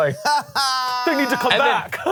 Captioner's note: laughs